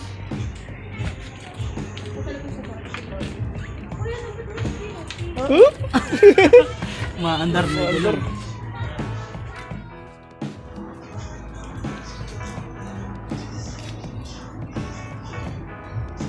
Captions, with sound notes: *laugh* The motor starts alone